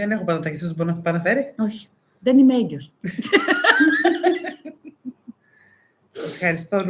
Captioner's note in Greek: γέλια